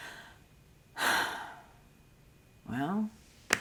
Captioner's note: sighing